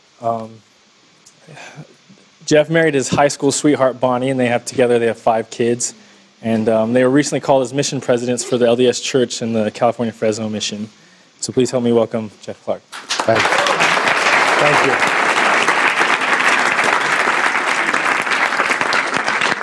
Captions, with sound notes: Jeff married his high school sweetheart Bonnie, and together they have five kids. And they were recently called as mission presidents for the LDS Church in the California Fresno Mission. So please help me welcome Jeff Clark. Thank you. Thank you. [APPLAUSE]